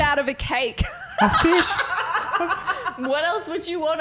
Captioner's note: laughing